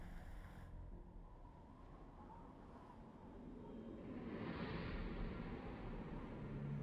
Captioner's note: dramatic music; wind howling